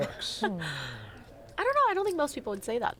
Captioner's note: laughs